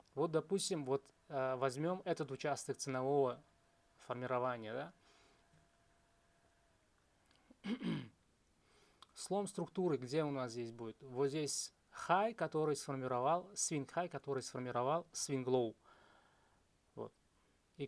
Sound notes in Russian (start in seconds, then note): 7.6 откашливается